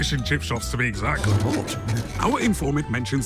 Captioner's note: couch legs scraping